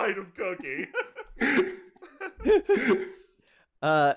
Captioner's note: laughter